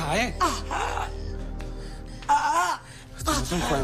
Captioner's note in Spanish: Quejidos